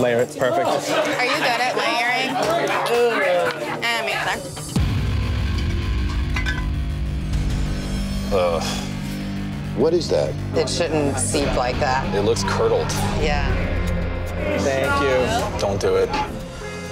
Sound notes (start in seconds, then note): 6.2 bottles clattering; 8.4 groaning